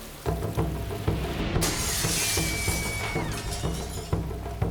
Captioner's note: glass breaking